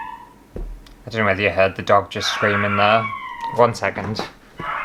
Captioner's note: dog SCREAMING!!; dog SCREAMING!!